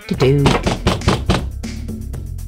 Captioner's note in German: Es klopt an der Tür